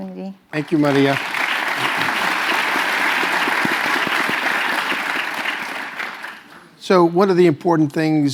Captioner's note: applause